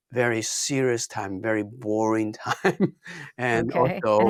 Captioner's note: laughs